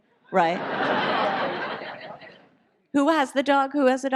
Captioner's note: audience laughs